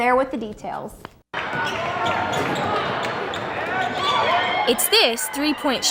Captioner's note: crowd cheering